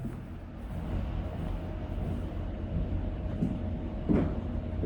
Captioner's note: footsteps tapping